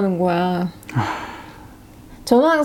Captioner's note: sigh